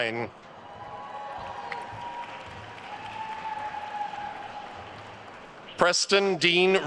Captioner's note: attendees cheering and applauding